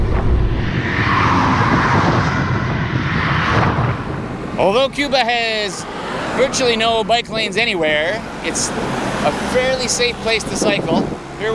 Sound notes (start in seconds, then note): 0.9 traffic driving